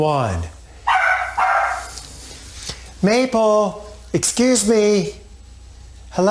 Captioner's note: dog barking